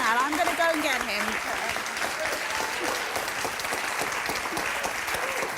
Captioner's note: audience applauding